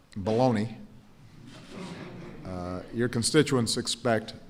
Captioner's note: laughter